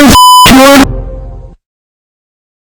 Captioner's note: Shadow Windows XD Random Edition Shutdown Sound